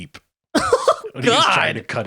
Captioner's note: laughing